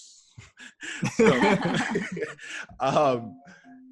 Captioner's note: laughter